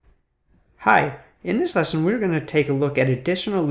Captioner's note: male Voice